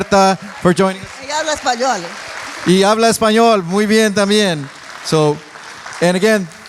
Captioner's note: applauding; speaking in foreign language